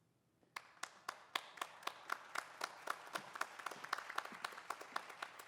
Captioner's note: audience applauding